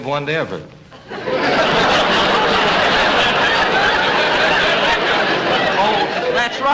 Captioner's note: audience Laughing